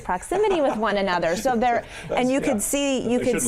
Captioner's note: laughing